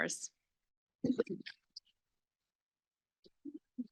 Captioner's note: silence